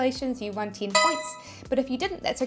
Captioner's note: bell chiming